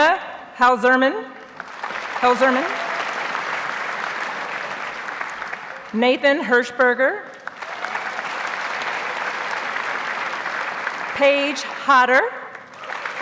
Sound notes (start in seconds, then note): 1.5 audience applauds; 7.4 audience applauds